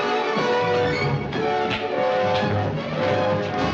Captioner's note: punching